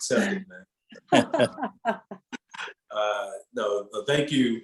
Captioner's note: laughter